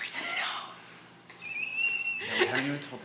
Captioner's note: squeals softly